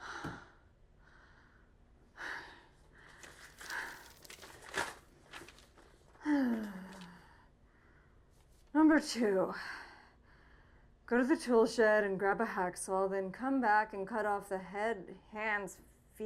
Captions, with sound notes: (paper crinkling) "Number two, go to the tool shed and grab a hacksaw, "then come back and cut off the head, hands, feet,